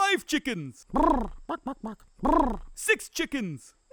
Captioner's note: chicken sings